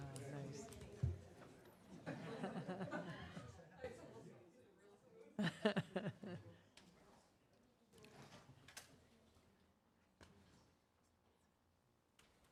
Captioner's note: laughter